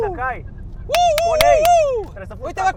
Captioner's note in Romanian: claps